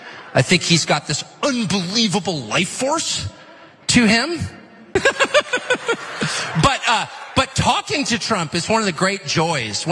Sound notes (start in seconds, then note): 4.9 laugh